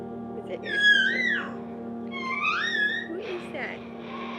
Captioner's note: baby cooing